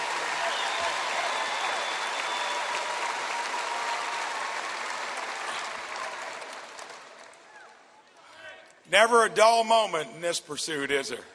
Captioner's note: applause